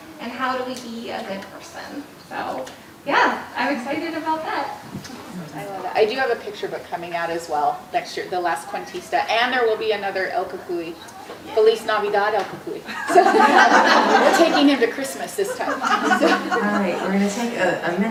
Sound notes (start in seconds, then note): 12.8 audience laughing